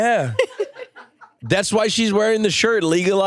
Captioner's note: and crew members laugh